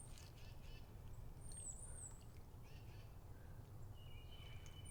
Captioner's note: bird chirping